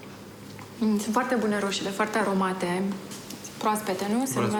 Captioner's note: speaking foreign language